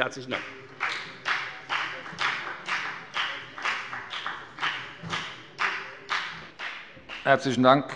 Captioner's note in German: Beifall bei der FDP